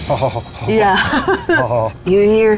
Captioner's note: laughs; groaning